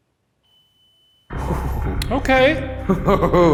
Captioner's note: device beeps